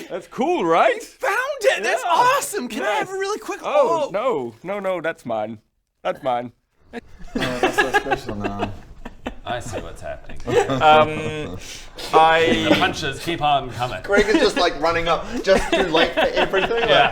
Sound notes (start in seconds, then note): 10.4 laughs